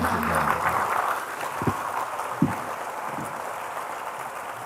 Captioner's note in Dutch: applaus